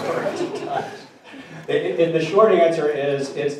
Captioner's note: audience chuckling